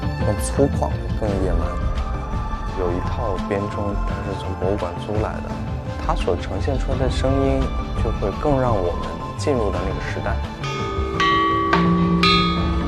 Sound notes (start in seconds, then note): 10.4 chime Bells